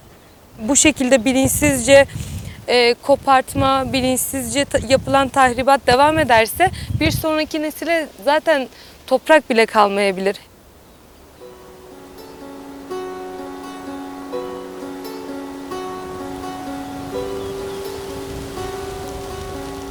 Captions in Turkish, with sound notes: Bu şekilde bilinçsizce kopartma, bilinçsizce yapılan tahribat ...devam ederse bir sonraki nesile zaten toprak bile kalmayabilir. (Enstrümental müzik) (Rüzgar sesi)